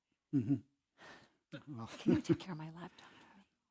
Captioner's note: laugh